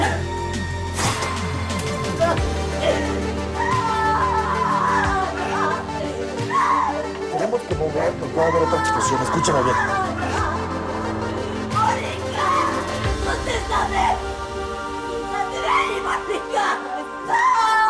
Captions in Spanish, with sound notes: NO... [Gritos] - TENEMOS QUE MOVERNOS. PUEDE HABER OTRA EXPLOSIÓN. ESCÚCHAME BIEN. - ¡MÓNICA, CONTÉSTAME! ¡SALTE DE AHÍ, MÓNICA! ¡NO!